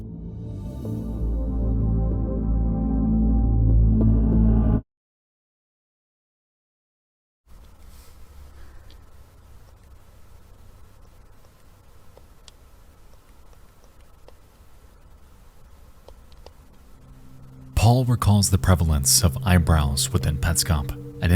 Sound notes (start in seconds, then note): 0.0 ominous music continues; 8.9 clicking sound; 16.7 ominous music